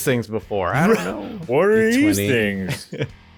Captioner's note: mockingly